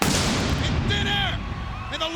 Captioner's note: pyros booms